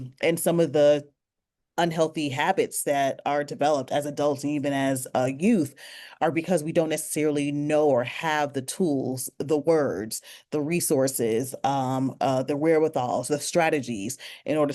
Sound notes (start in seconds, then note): none